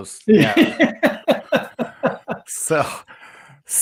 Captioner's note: laughter